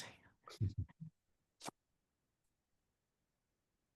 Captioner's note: chuckles